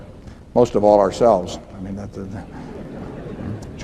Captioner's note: laughter